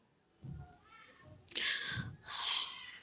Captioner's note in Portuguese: suspiro